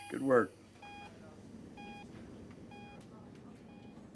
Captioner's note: machines beeping